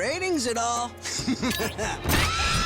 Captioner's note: chuckles